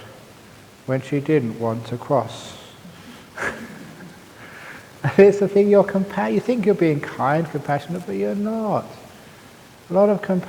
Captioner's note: laughs